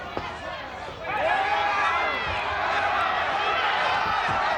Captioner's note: audience cheers